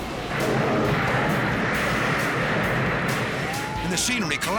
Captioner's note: thunder crashes